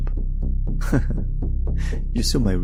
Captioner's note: laughs